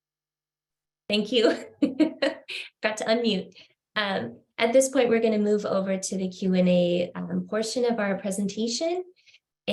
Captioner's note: laughter